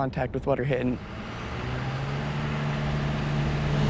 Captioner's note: motor running